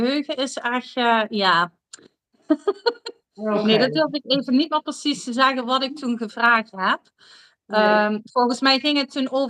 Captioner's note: laughs